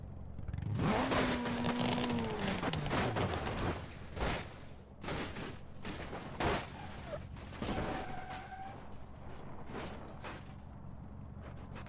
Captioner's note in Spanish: Crash sound